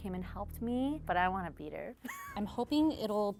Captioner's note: laughs